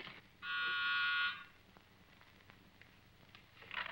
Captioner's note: door bell buzzes